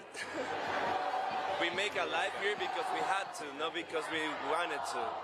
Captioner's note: laughter